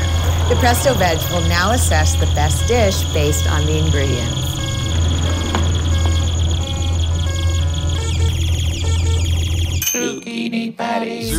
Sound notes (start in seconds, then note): 0.0 beeping; 4.7 audience oohs; 4.7 beeping; 7.5 beep-beep beep-beep; 9.7 mechanical voice